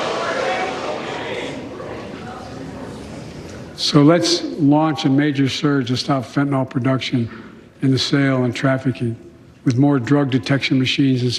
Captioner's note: shouting